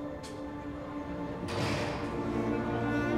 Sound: door closes

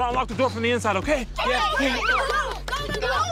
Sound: cheering

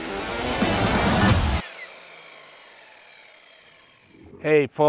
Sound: saw whirring

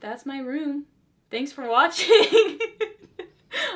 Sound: laughs

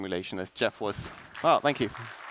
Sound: applause

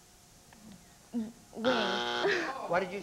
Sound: buzzer

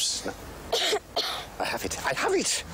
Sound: Bess coughing

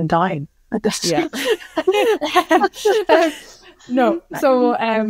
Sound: all participants laugh

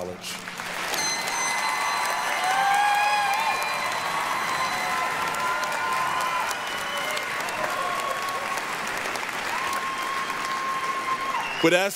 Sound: applause, cheering

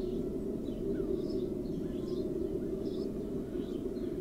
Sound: wind howling reduces, but chirping continues

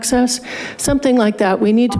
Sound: buzzer beeps

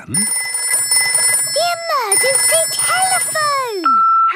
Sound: phone ringing; answering machine

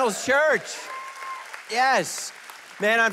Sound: congregation cheering

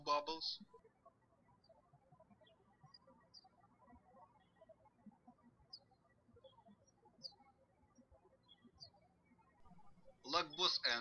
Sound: birds chirping

